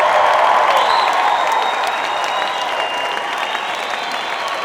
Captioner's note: audience cheering